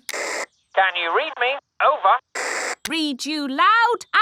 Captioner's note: walkie-talkie crackles; walkie-talkie crackles